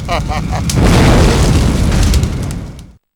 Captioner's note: evil laughter; flaming portal closes